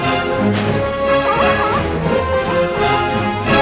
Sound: barking

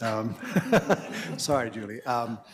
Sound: all laughing

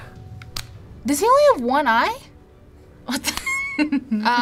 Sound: laughs

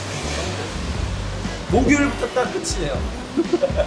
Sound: hahaha

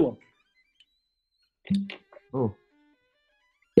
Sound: quiet, low pop

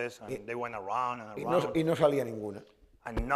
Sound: speaking spanish

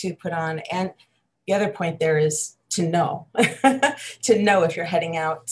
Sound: laughs

